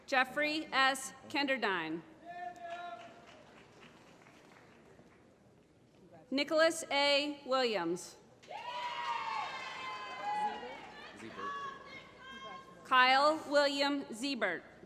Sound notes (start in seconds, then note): 2.6 applause; 8.4 applause